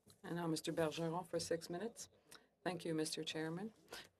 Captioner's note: speaking French